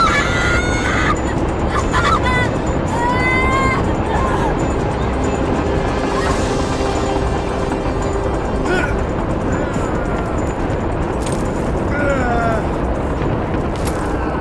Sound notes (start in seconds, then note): 2.9 intense music; 8.6 Bruce gasping; 9.4 rocks scuffling